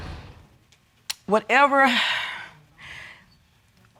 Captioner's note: exhales